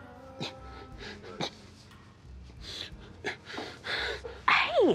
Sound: sobbing

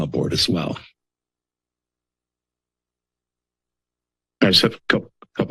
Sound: silence

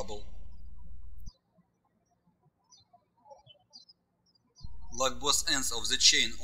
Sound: birds chirping

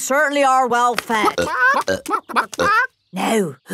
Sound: clucking

